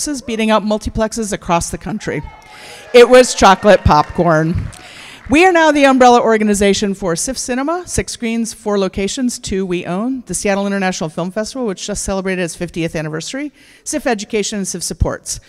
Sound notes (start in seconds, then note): 1.9 cheers; 2.3 applause